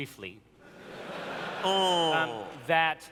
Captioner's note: laughter